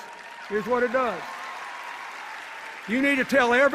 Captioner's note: cheers and applause